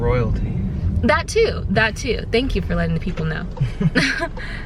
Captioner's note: laughs